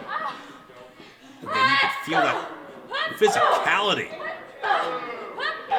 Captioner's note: wrestlers grunting